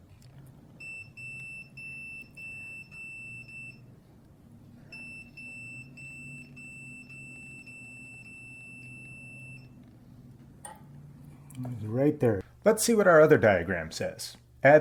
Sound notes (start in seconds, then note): 0.7 beeping starts; 4.9 beeping stops